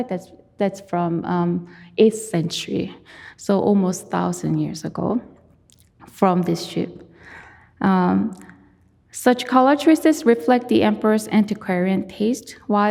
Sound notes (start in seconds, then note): none